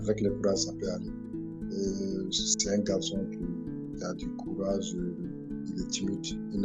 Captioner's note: continues speaking in French